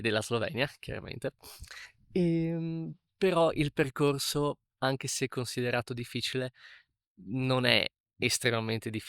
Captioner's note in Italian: sbuffare